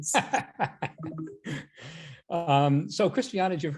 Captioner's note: laughing